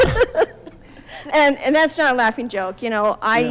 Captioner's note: laughs